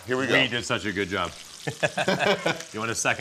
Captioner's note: both laugh